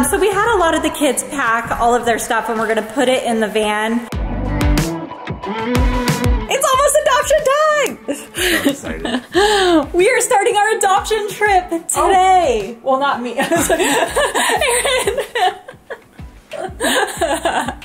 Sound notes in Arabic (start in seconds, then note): 4.9 موسيقى مبهجة; 8.0 يضحك; 13.4 يضحك